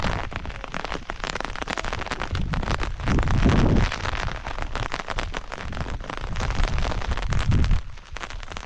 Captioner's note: sound of rain